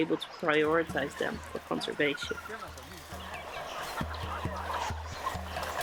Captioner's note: animals crying